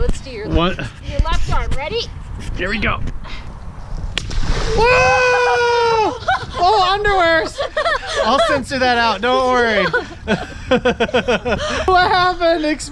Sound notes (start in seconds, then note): 4.4 shouts; 9.5 laughing